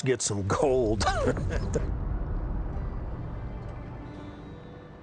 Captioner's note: chuckles